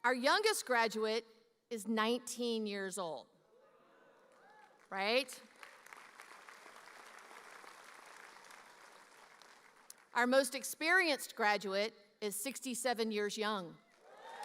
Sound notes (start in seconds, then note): 5.4 audience applauding